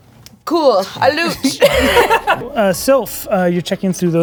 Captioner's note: laughing